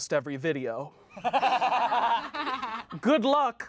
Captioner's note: everyone laughs